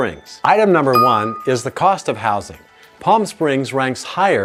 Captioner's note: bell dings